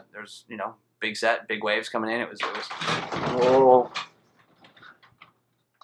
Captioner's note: earthquake noises